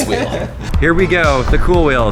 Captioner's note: laughs